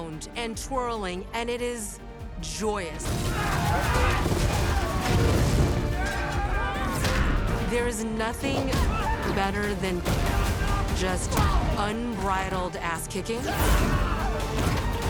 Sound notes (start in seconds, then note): 3.2 Brigands scream; 5.9 Brigand yells, groans; 9.2 Kara grunts; 10.0 Brigands yelling, grunting; 13.4 Brigand screams